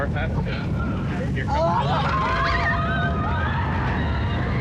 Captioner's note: riders scream